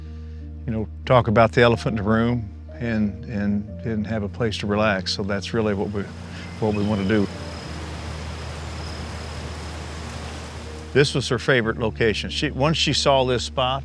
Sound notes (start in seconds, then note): 4.6 insects chittering; 4.9 water rushing